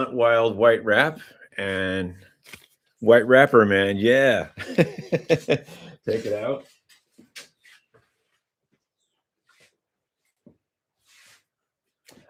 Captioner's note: laughter